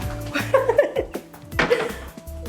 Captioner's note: laughing